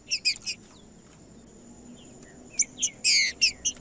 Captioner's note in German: trinca ferro cantando